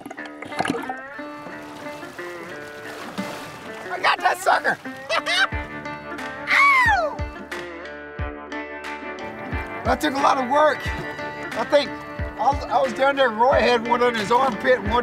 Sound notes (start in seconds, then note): 4.9 laughs; 8.0 steady country rock music